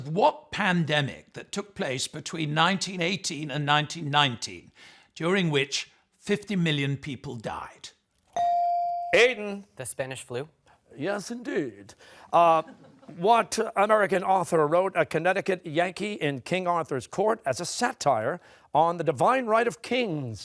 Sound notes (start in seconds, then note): 11.3 British accent